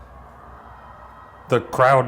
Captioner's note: audience cheering